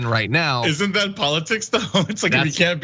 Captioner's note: laugh